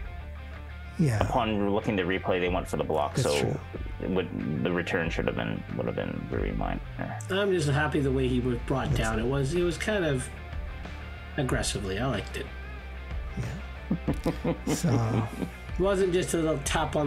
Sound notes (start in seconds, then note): 15.3 laughing